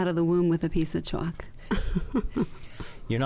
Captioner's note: chuckles